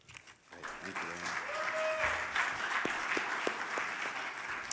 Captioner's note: audience applauding